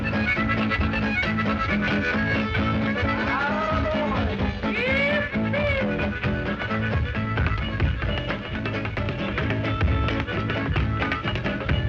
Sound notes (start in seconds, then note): 0.3 upbeat music; 7.4 loud tapping